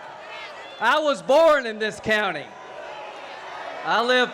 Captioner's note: boos